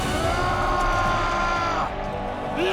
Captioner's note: screams